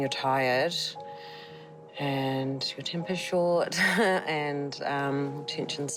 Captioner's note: chuckles